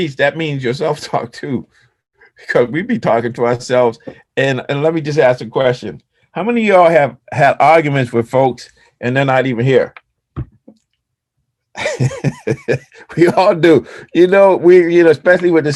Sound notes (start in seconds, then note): 11.7 laughs